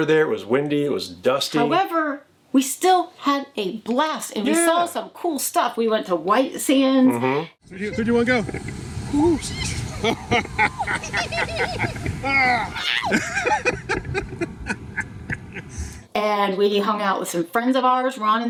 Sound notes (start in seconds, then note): 9.7 both laughing; 13.2 laughing